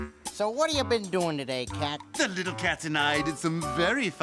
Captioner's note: none